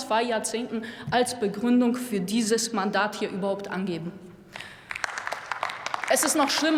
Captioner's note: Applause from DIE LINKE